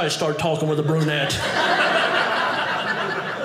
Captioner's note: audience laughing